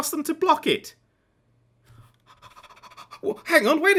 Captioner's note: excited panting